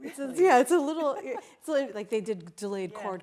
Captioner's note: laughing